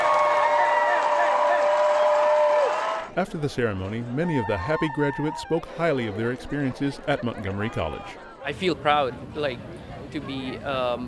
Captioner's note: cheering